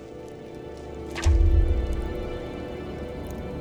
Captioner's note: thud